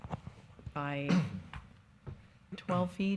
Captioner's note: man clears throat